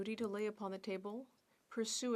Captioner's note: speaking French